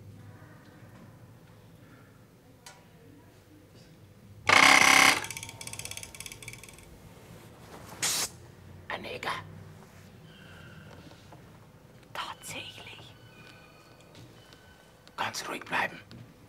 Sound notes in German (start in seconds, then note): 6.9 flüstert